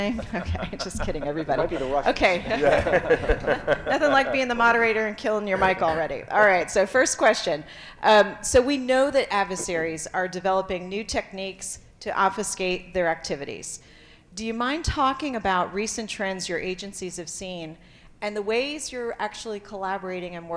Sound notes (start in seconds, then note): 3.1 panelists laughing